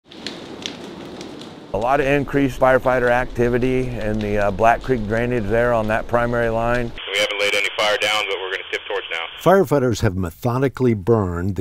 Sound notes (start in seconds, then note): 0.0 sound of a fire burning; 7.0 voice on a radio